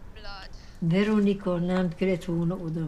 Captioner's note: speaking romanian